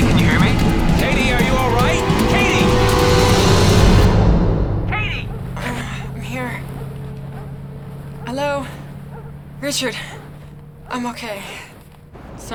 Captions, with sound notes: Katie, can you hear me? Katie, are you all right? Katie! Katie! - (groaning) I'm here. Hello? Richard, I'm okay.